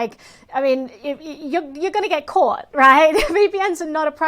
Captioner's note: chuckles